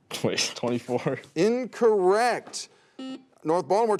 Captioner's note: buzzer sounds